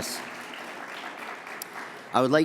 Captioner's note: audience applauds